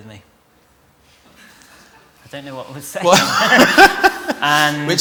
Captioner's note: laughter